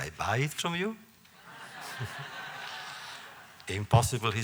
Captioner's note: laughter